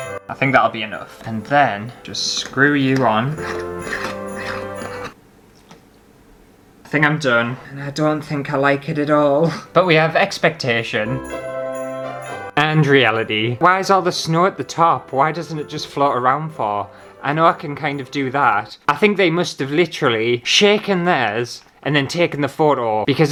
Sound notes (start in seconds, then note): 3.6 jar Screwing